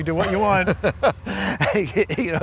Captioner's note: laughing